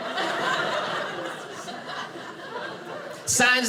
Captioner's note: audience laughing